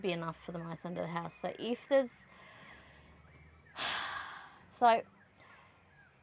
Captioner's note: sighs heavily